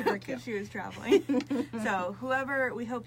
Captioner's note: both laugh